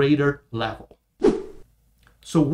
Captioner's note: air whooshing